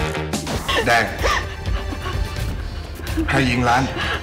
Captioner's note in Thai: ร้องไห้